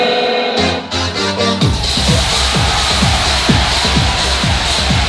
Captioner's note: crowd cheering